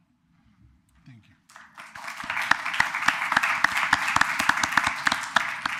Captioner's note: applause